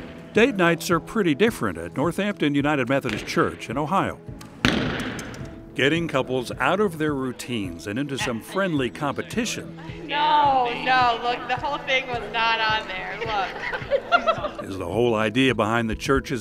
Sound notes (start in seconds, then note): 4.5 sound of arrow hitting target